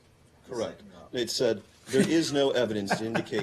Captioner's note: laughter